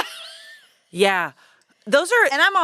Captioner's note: laughs